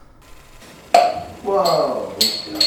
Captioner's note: bottle cap pops open